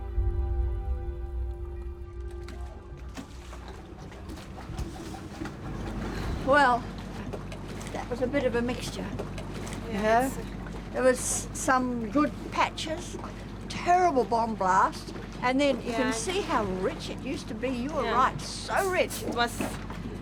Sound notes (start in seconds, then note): 4.5 boat engine running; 6.2 sighs